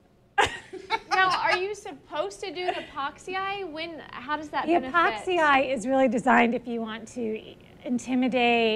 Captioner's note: laughs